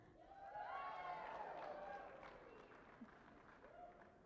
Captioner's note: cheering and applause